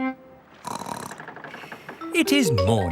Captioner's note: snorts